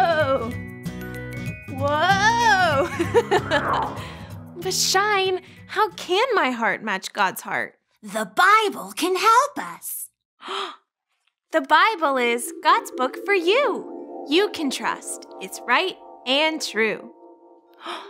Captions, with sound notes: Whoa. (laughing) But Shine, how can my heart match God's heart? - The Bible can help us. (gasping) - The Bible is God's book for you. You can trust it's right and true.